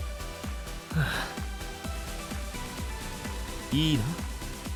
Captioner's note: sighs